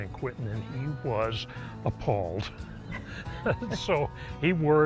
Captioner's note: laughs